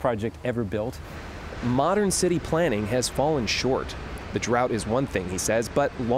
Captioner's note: voice-over